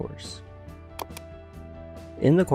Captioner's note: keyboard click